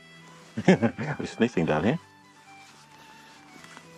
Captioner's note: laughs